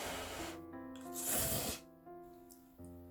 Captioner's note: slurps